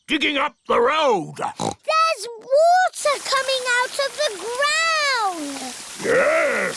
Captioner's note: oinks